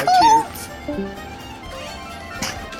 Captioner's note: discord leaving noise = bluto died of cringe